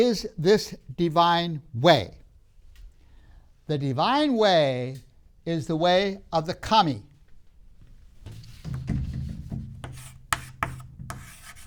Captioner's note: marker clunks on the board